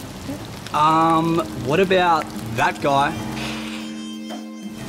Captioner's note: hisses